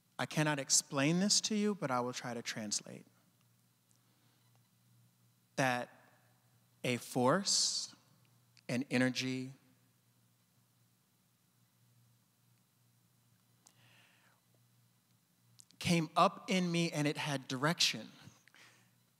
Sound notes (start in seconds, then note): none